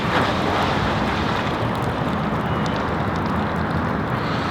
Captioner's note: water splash